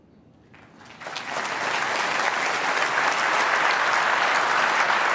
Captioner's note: applause